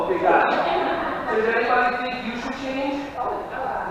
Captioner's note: laughing